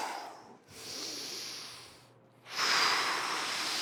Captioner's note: exhales; inhales; exhales